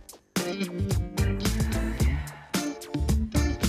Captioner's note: exhaling